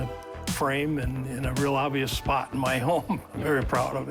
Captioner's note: laughs